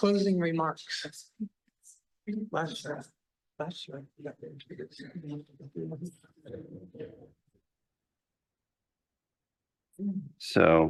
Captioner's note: background conversations